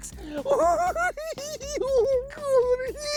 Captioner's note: cackles